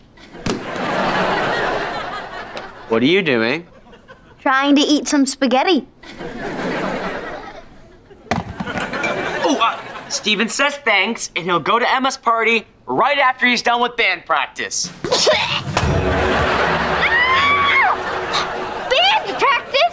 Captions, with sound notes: What are you doing? Trying to eat some spaghetti. Oh, Steven says thanks, and he'll go to Emma's party right after he's done with band practice. [coughing] [screaming] Band practice?